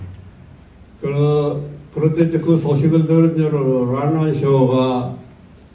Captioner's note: in foreign language